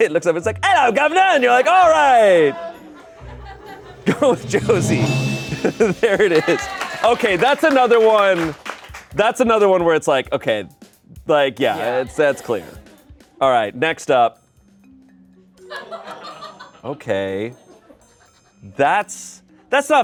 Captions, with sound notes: It looks up, it's like, "Hello governor." You're like, all right. Going with Josie. (bell chimes) There it is. Okay, that's another one. That's another one where it's like, okay. Like, yeah, that's clear. All right, next up. (everyone laughs) Okay. That's not fair.